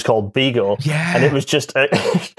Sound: laughs; excited

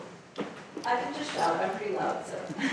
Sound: voiceover

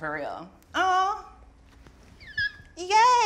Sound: shrieks

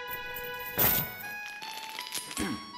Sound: chain snags

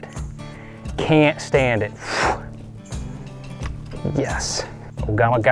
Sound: exhales sharply

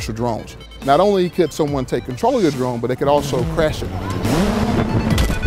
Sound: rotors buzzing; crash

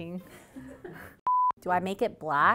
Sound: intermission beeping

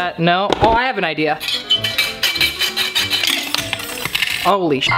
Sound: hand saw scrapes; metal clatters; beep

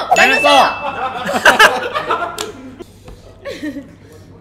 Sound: laughs

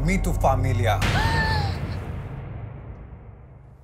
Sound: gasps

